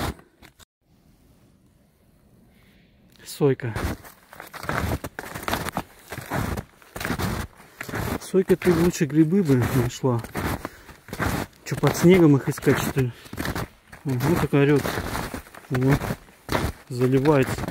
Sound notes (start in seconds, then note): 0.6 snow crunching